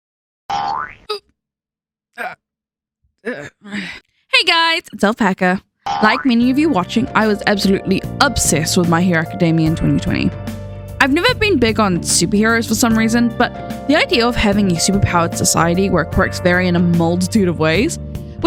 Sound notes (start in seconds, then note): 2.2 grunting